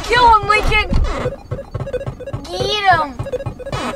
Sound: beeping

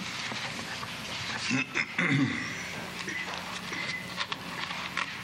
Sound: clears throat

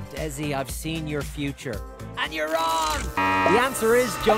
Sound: electricity buzzes

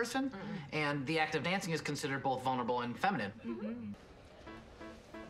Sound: rest of group ‘mmhmms’

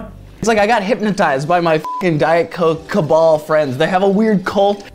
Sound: beep

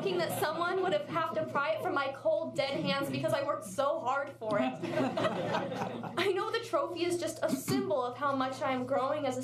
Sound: laughter

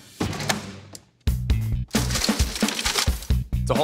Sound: clattering

